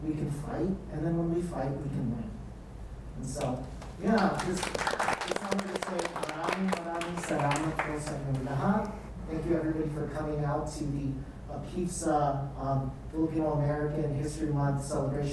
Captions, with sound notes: we can fight, and then when we fight, we can win. And so, yeah. (audience applauds) I just wanted to say, (speaks in foreign language) Thank you everybody for coming out to the APIFSA Filipino-American History Month celebration